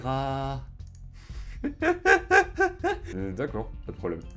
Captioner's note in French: Rires